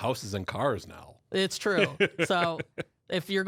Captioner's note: laughs